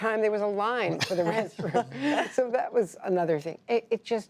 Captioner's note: laughter